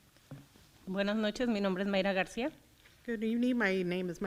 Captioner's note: foreign language